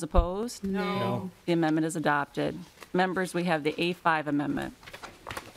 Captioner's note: chorus of ayes